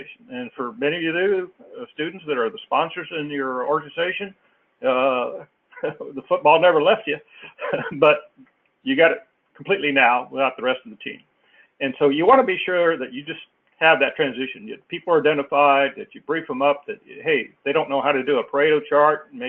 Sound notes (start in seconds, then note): 7.4 laugh